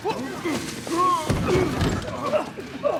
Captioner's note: grunting